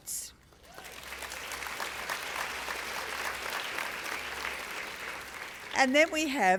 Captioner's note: applause